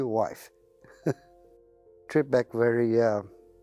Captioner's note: laughs